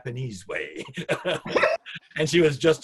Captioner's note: both laugh